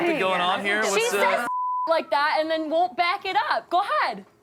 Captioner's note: beep